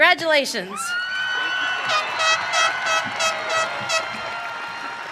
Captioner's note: audience cheering